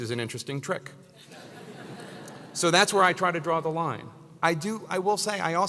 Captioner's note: laugh